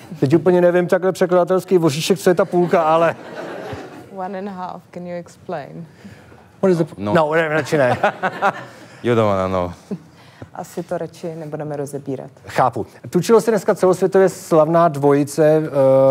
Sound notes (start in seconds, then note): 9.3 laugh